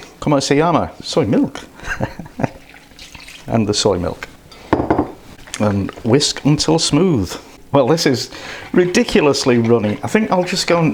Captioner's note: laughs